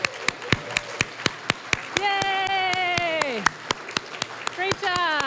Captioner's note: cheering, applause; applause